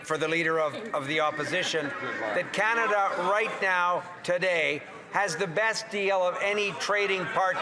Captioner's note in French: voix de l'interprète; voix de l'interprète